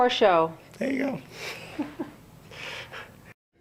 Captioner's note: laughs